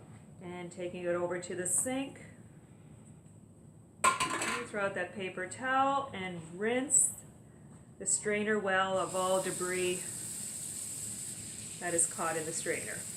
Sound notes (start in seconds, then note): 4.0 dropping sound